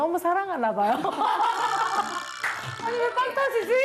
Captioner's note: everyone bursts out laughing / Hahahaha